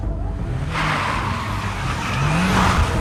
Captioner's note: tires screeching